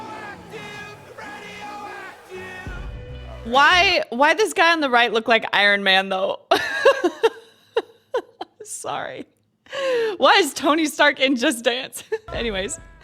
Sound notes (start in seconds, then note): 6.5 laughs